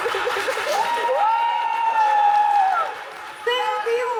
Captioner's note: audience applauding